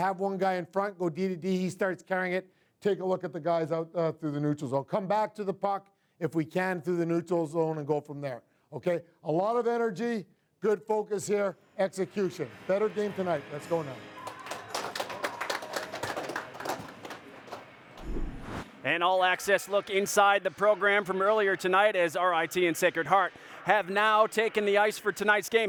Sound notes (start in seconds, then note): 14.1 clapping